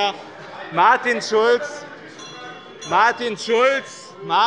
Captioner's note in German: Zurufe von der SPD - Glockenzeichen der Präsidentin